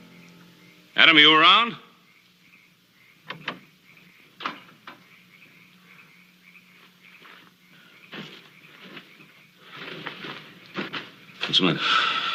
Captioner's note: door opens